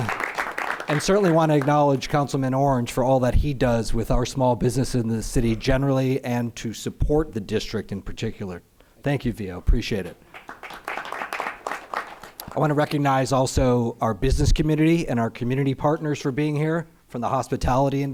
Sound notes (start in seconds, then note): 10.3 applause